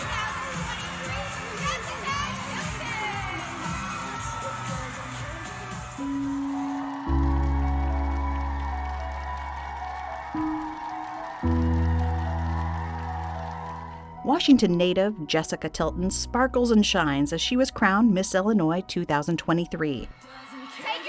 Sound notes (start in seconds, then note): 3.7 upbeat music; 7.2 crowd cheering; 7.2 soft music